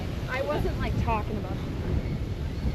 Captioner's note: random chatter